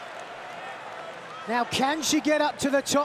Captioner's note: crowd yells indistinctly